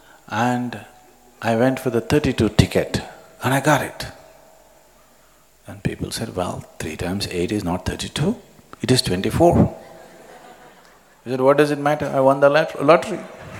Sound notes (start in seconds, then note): 9.8 laughter